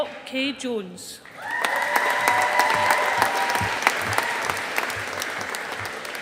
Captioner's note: audience applauding